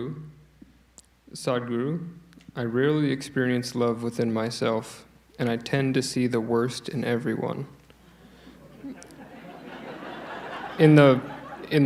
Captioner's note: laughter